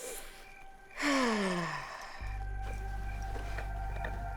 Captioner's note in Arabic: تتنهد رايتشل